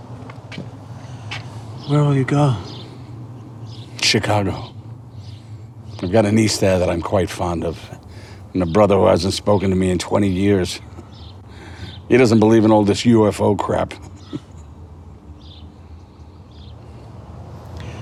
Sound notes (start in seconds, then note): 13.8 chuckling